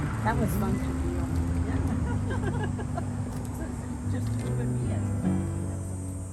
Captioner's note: women laugh